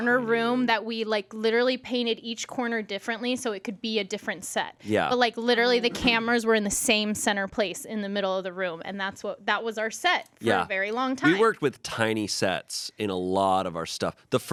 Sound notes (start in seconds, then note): none